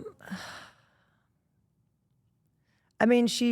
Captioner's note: Rhea exhales deeply